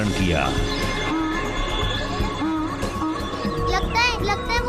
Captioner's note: braying